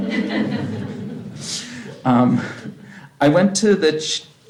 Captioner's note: laughter